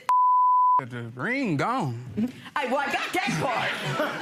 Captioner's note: beep